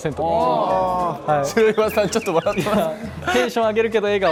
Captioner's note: hahaha